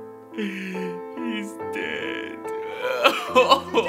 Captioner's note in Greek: jordi κλαιγοντας